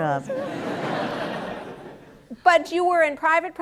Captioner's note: laughter